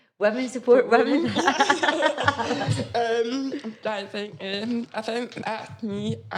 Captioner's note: laughs quickly